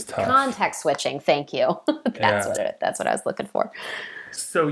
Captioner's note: laughing